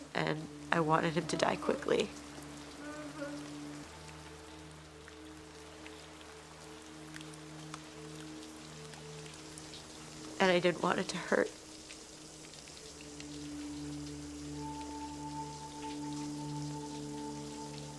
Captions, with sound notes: and I wanted him to die quickly. [soft pensive music] [rain tapping] And, I didn't want it to hurt. [soft pensive music] [shower water running]